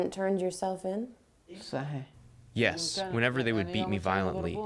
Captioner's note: through translator